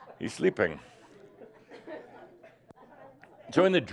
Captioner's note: laughter